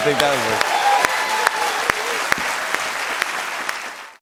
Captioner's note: cheers and applause